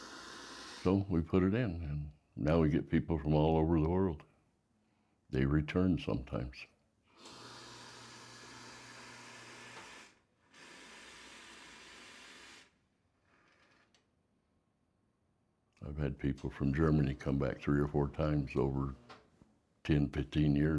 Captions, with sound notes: So we put it in, and now we get people from all over the world. They return sometimes. [coffee machine whirring and steaming] I've had people from Germany come back three or four times over 10, 15 years